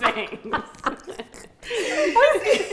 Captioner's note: all laughing